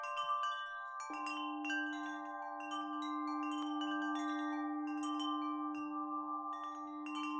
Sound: wind chimes ringing

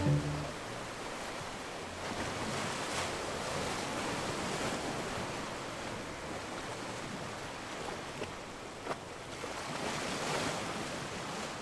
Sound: water gently lapping

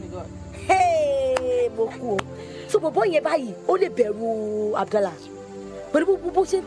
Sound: speaking in foreign language

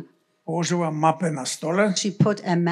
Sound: foreign language

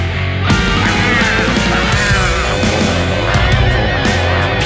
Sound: grr! Grr! Grr!

